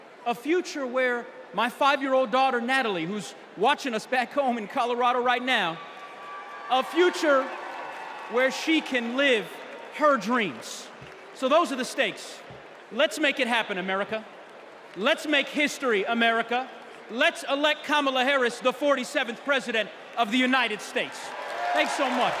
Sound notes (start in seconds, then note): 11.4 cheers